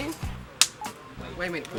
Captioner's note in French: Claque